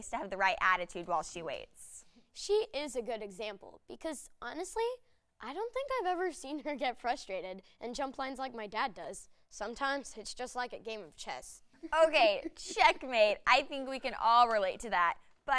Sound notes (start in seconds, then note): none